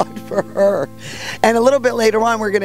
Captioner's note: woman laughing